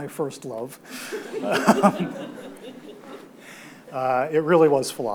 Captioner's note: audience laughs